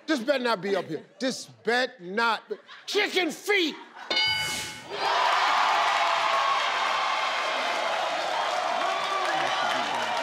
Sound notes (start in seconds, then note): 4.1 bell ring sound; 4.8 crowd cheers